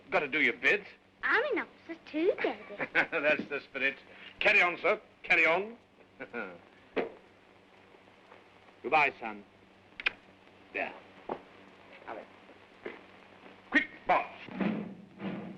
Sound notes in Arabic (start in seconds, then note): 2.4 يضحك